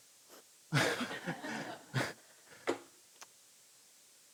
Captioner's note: laughs